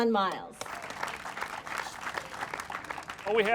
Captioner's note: applauding